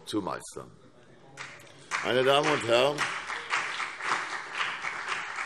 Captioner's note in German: Beifall CDU und BÜNDNIS 90/DIE GRÜNEN